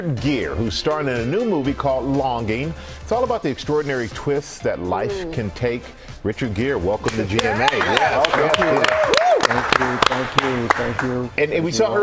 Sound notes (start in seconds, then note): 7.3 applause